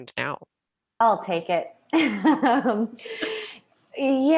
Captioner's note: laughs